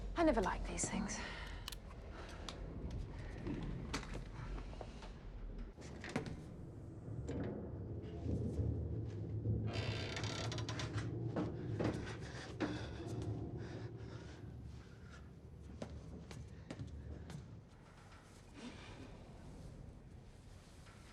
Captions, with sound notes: - I never liked these things. (ship creaking) (Faraday panting) (ship creaking)